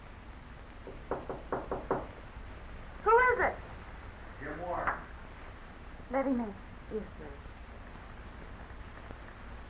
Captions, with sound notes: (knocking) - Who is it? - Jim Warren. - Let him in. - Yes, miss.